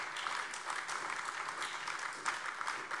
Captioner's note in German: Beifall AfD